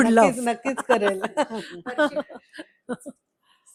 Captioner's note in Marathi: हास्य